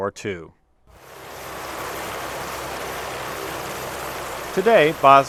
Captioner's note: helicopter blades whir